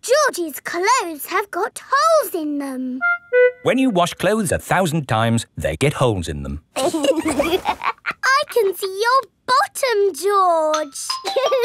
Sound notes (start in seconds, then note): 6.8 laughs